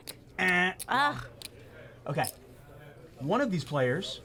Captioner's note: groans